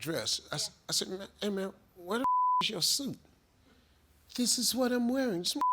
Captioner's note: beep